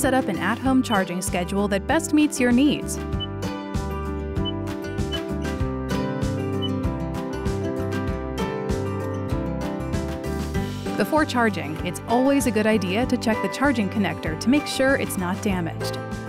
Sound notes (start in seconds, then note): 3.8 upbeat music continues; 5.0 device beeps